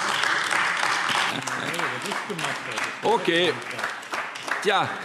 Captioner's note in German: Beifall AfD